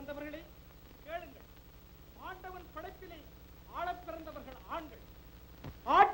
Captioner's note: hindi Spoken Audio